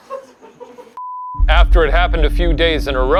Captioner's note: crew laughing; scene beeping